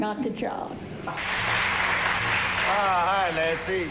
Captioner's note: audience applauds